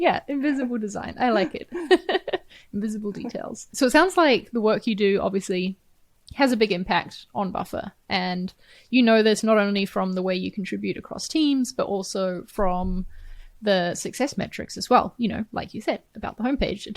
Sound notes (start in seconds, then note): 1.1 chuckles